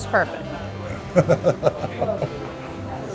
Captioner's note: laughs